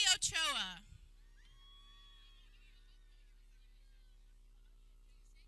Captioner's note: people cheering